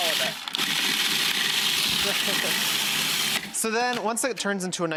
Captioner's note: food processor whirling